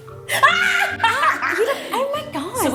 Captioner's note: laughs